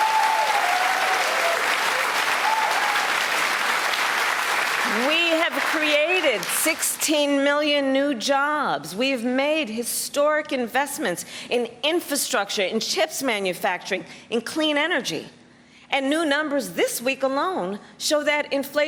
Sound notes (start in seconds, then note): 4.4 applause